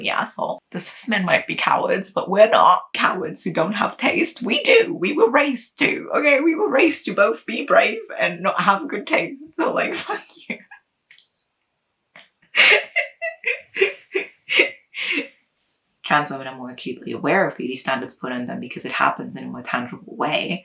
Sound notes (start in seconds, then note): 12.5 laughter